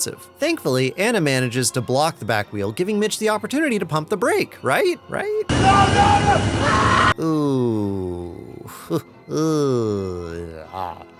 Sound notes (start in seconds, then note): 5.6 screaming